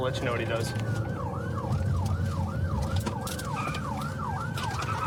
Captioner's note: siren wailing